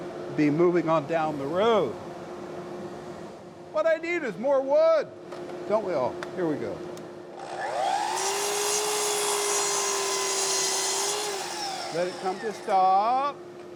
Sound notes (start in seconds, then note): 7.3 saw buzzing